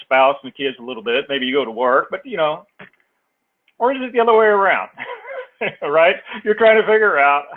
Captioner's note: laugh